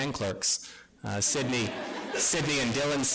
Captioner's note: laughter